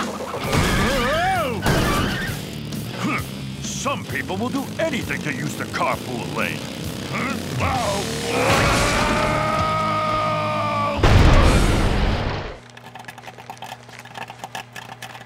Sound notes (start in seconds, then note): 2.9 scoffs; 8.2 screaming